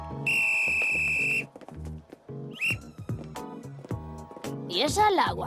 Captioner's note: whistle blowing